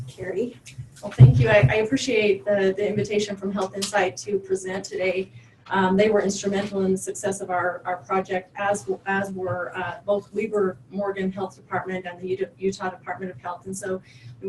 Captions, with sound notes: Carrie. - Well thank you I appreciate the invitation from HealthInsight to present today. They were instrumental in the success of our project as we're (audio warbles) Morgan Health Department at Utah Department of Health and so